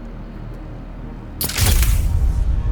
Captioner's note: tense music building; camera shutter clicks